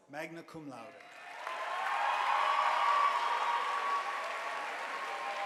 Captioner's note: audience applauding